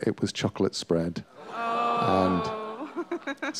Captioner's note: laughter